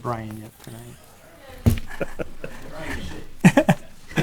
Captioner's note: laughing